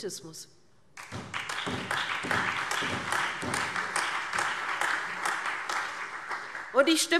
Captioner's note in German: Allgemeiner Beifall